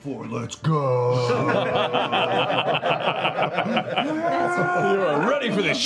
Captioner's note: laughter